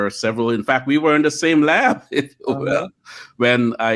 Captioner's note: laughs